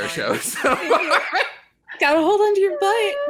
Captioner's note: laughter